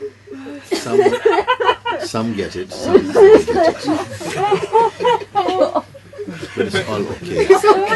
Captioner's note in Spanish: risas